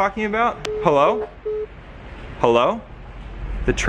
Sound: phone beeping

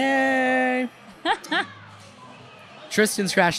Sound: laughing

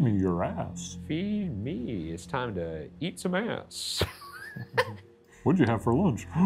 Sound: laughs

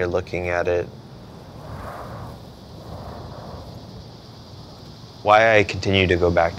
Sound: cicadas chirruping

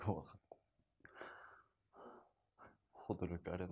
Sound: breathing

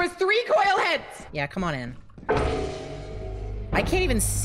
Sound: Coil-Heads move

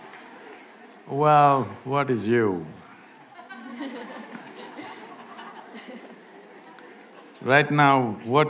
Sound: few laugh

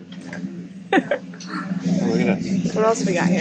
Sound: laughs

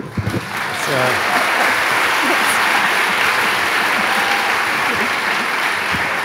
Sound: audience applauding enthusiastically

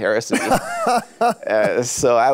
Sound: laughs

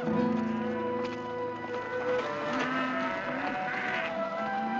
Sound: mooing

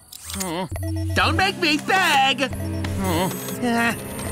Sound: beeping

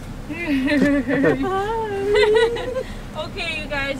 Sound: giggling

